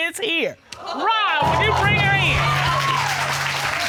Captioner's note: audience exclaims